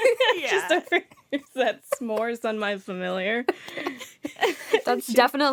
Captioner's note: laughter